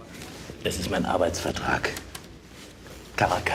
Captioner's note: in German